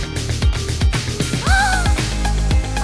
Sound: gasping

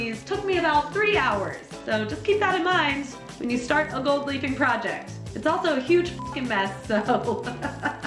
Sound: laughs

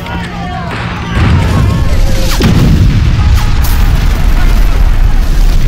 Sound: weapons bullets fly

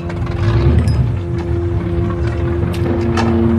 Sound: engine revving

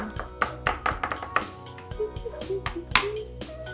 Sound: knock

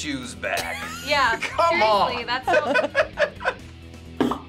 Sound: laughs

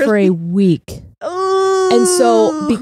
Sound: groans

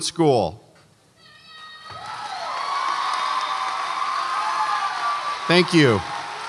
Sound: audience applauds and cheers

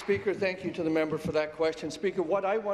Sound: applause

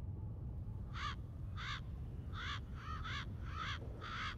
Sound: crow cawing

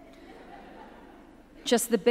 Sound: audience chuckles

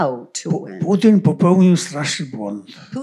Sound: foreign language

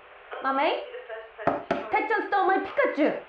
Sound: knock

